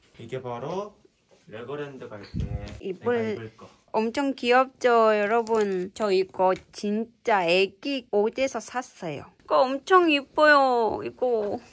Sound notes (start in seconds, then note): none